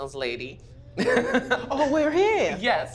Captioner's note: laughs